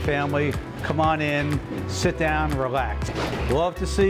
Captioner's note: swish